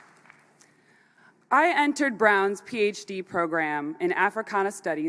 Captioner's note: applause